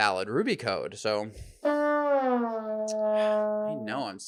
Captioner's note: horn blows